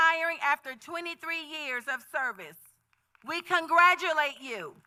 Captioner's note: applause